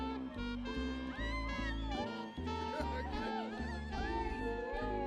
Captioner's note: people cheering